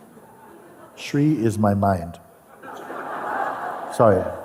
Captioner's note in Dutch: gelach